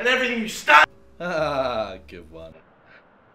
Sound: laughs awkwardly

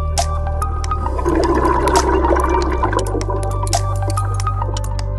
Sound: water gurgling

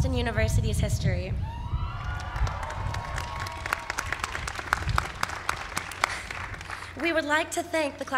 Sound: cheering

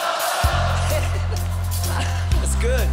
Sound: laughing

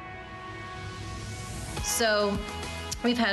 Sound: air whooshing

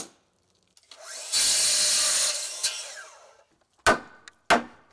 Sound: drill whirring; saw whirring; hammer smacking

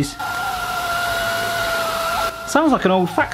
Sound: churro maker screeching and whistling

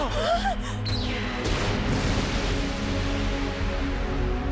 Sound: all gasp; explosion

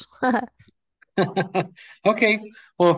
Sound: chuckles

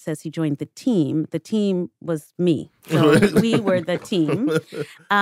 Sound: chuckles

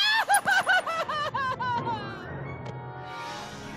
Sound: wailing

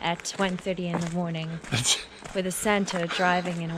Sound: laughs

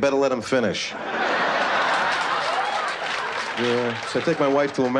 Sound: laughter

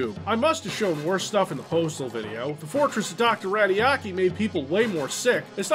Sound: none

